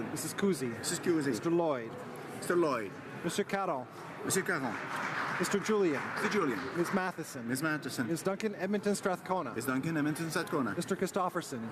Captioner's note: calling of recorded vote